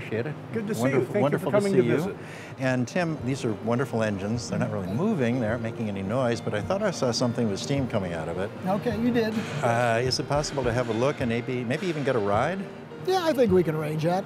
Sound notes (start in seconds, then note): none